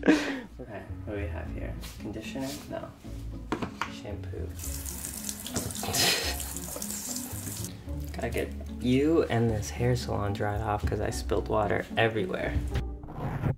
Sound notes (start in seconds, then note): 0.0 groans; 0.0 laughs; 4.4 water running; 5.7 laughs; 13.3 comb rubs against mic